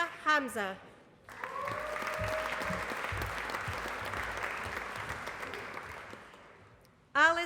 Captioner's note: applause